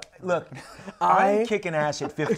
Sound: laughs

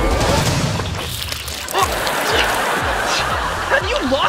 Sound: grunting

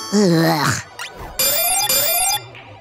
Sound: beeping

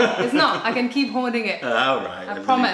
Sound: laughter

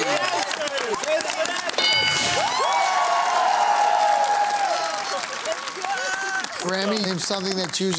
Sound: bell dings

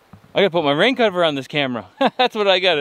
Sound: laughs

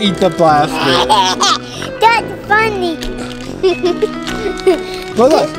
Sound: laughs

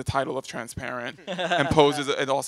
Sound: laughs

